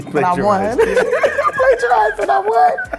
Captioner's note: laughing